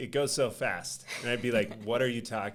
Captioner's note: chuckling